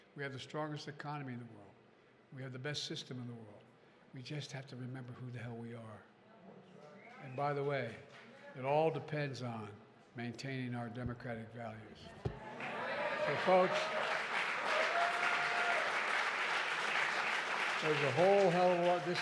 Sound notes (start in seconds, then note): 12.5 applause